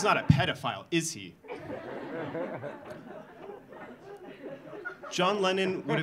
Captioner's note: audience laughing